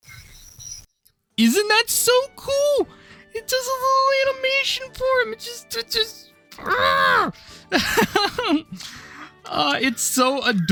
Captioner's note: giggle